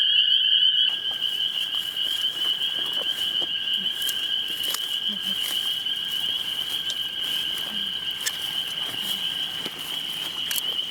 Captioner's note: spring peepers singing